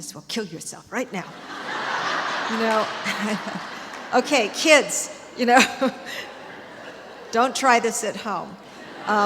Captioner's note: laughter